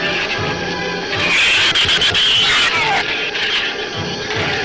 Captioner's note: shrews screech